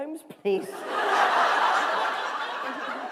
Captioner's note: laughter